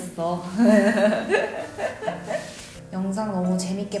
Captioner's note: cute but dummy laughs of LOL